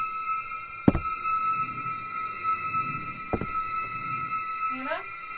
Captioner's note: muffled rhythmic thumps